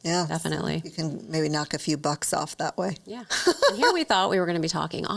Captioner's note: laughs